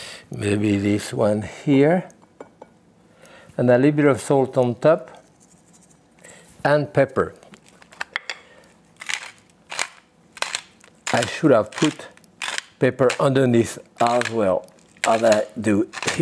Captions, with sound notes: Maybe this one here and a little bit of salt on top and pepper. (pepper mill grinds) I should have put pepper underneath as well as I do here.